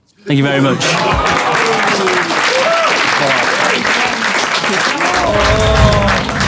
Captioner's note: people in room clapping and groaning